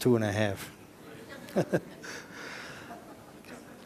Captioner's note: laughter